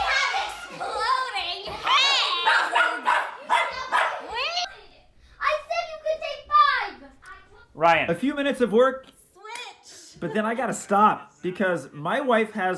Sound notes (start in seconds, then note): 2.4 dog barking